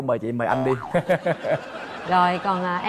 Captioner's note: laughs